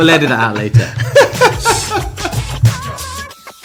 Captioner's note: laughing; upbeat music